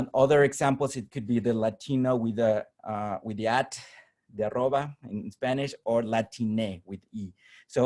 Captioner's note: spanish